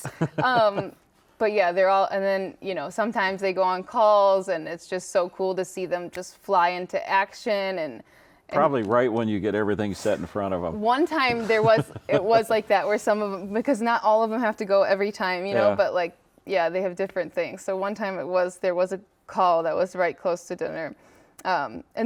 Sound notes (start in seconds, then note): 0.0 laughs; 6.4 snaps